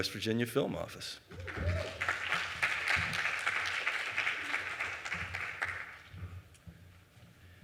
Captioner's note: audience Clapping